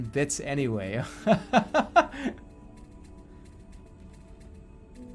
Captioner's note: laughing